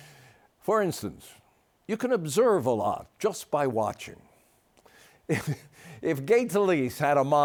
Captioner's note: chuckles